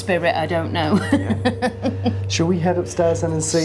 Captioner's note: laughing